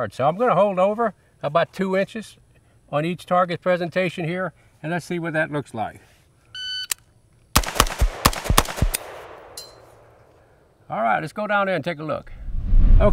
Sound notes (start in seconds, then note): 6.6 timer beeps; 7.5 rifling firing